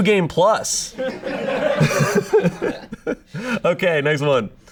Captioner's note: audience laughing